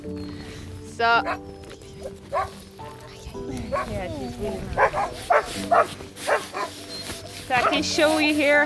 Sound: dog barking

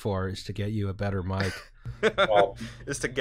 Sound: laughter

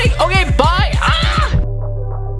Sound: screaming

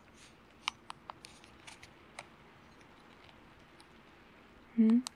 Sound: happy switch noises - have you guessed the game yet?

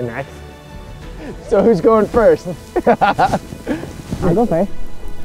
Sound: laughing

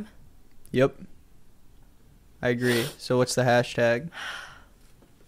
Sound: WOMAN sniffs

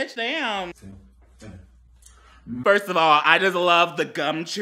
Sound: people humming

